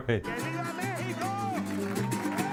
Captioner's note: chuckles